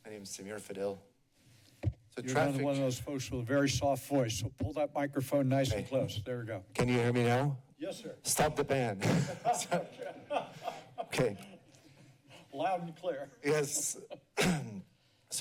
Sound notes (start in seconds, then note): 9.0 laughter; 14.3 clears throat